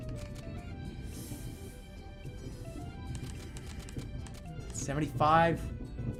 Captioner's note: exhales